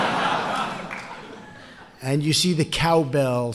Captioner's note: laughter